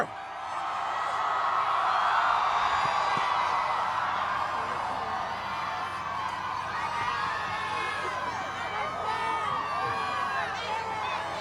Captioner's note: crowd cheering